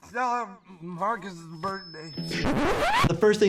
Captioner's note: record scratches